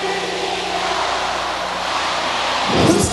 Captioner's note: crowd